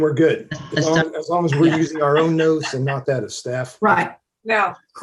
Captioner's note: laughter